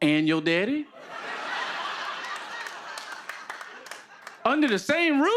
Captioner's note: laughter